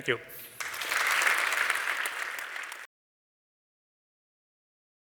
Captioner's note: audience applauding